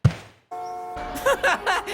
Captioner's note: phone rings